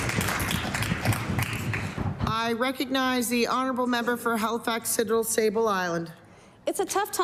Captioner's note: applause